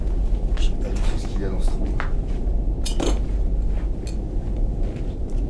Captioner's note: speaks French